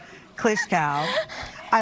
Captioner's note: giggles